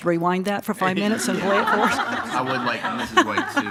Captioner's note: all laughing